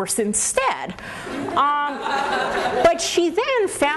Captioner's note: laughter